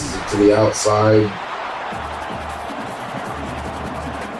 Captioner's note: crowd Noises